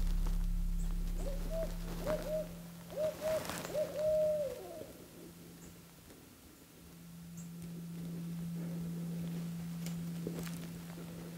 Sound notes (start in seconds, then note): 2.8 bird cooing